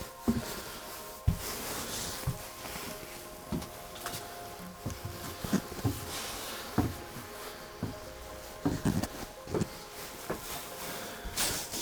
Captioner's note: climbing stairs